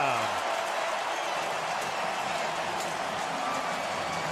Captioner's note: cheering